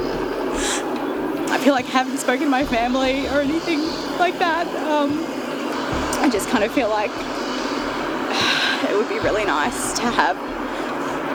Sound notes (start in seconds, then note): 8.1 exhales